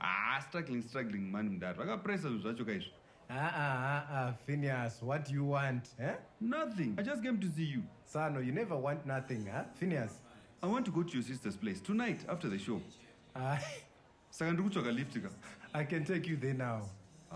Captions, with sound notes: Ha, struggling, struggling boss. It's a hustle out here. Ha ah, ha ah, Phineas what do you want? Heh? Nothing. I just came to see you! Tsano, you never want nothing. Ha, Phineas! I want to go to your sister's place, tonight after the show. [laughs] So can I catch a ride with you? I can take you there now.